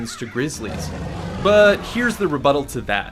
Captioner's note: bear growling